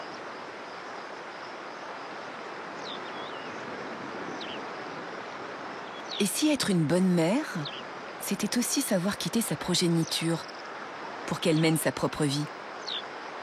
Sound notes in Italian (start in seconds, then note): 2.3 cinguettii